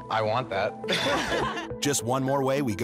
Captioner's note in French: laughing